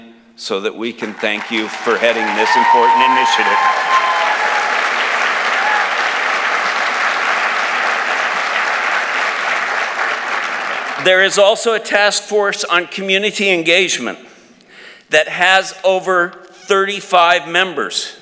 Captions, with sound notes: so that we can thank you for adding this important initiative? [ Applause ] There is also a task force on community engagement that has over 35 members.